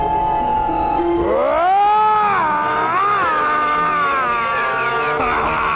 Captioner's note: Chooper screaming